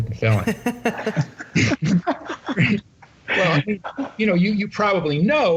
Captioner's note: laughter